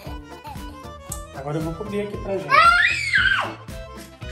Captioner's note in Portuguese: Grito